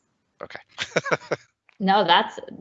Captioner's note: laughs